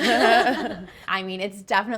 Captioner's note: group laughing